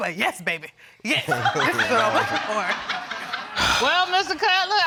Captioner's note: audience chuckling